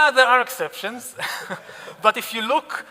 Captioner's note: audience laughing